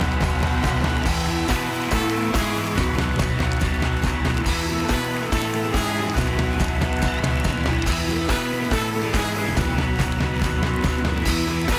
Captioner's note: applause